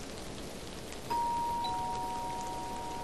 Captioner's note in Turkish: Zil sesi